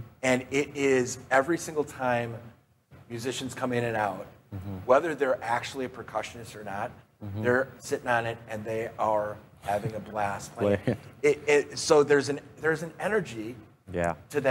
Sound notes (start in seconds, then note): 10.6 laughs